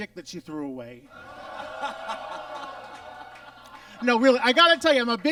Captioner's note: audience laughs